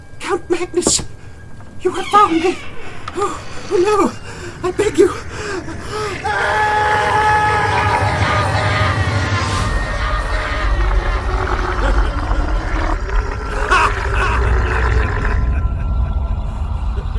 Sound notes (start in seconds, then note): 1.6 door creaks open; 6.8 screams; 9.0 Creature gurgles and Count Magnus laughs